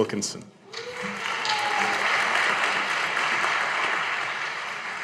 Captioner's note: audience applauding